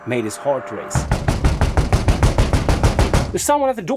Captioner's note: loud knocking at the door